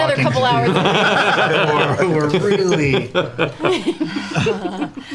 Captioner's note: laughter